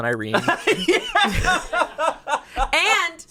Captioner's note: laughs